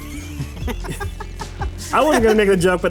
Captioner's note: laughter